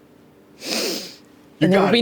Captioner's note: sniffs